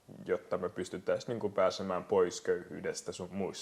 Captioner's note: none